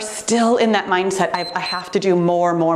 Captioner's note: timer beeps